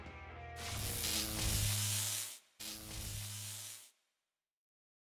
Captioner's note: electric static